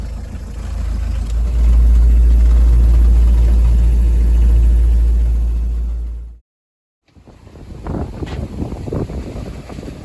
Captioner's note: engine noise